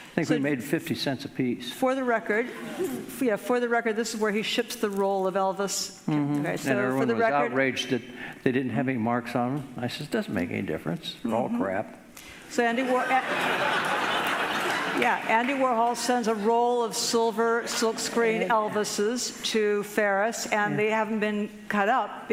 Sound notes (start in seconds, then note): 12.8 audience laughing